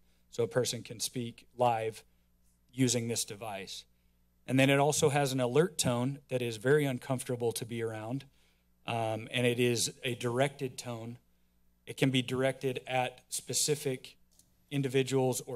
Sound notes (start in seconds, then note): none